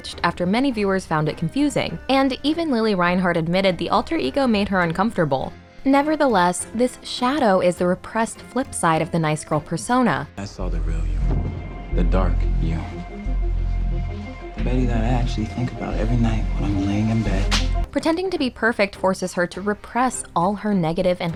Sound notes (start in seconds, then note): 17.4 slap